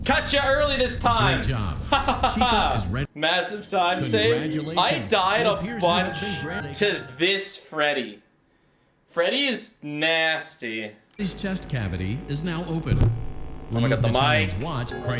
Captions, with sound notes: Catch ya early this time! (Laughs) Massive time saved. I died a bunch to this Freddy. Freddy is nasty. Oh my god, the mic.